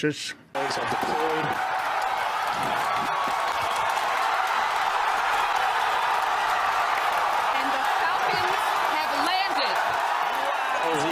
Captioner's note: crowd cheering off camera